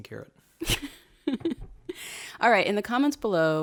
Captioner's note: laughs